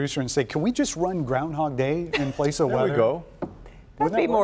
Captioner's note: laughter